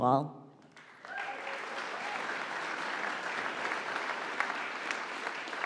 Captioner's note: audience applauding